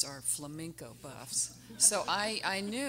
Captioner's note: everyone laughing